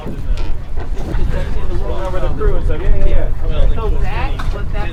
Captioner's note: crew members chattering